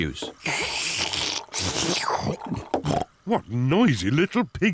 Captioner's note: both slurping